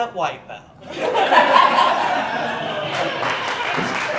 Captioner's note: audience Laughing